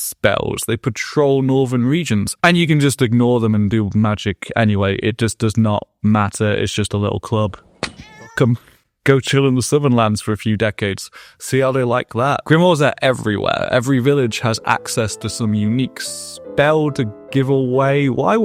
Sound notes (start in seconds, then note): 7.8 meow